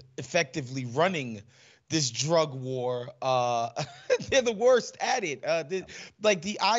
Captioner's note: laugh